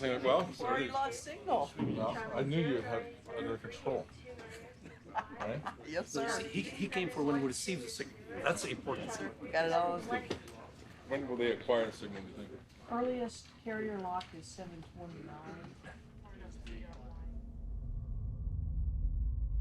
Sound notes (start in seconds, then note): 4.7 laughing; 16.6 dramatic music